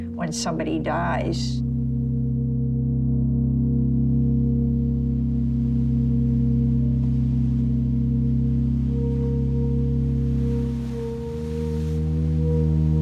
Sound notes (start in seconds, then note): 5.3 soft solemn music continues; 5.3 waves crashing